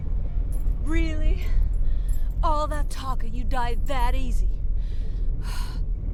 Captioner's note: sighs